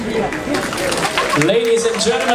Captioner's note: audience applauding